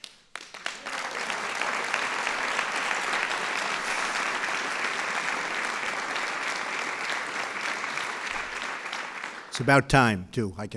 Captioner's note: applause